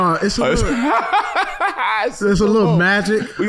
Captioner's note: laughing